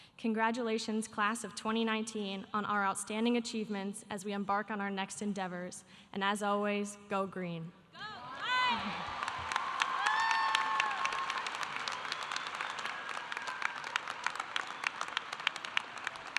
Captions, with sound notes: Congratulations class of 2019 on our outstanding achievements as we embark on our next endeavors, and as always, go green. (audience applauding) (audience cheering)